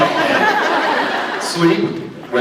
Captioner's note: laughs